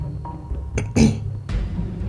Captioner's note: clears throat